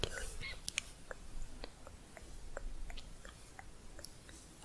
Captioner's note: tongue clicking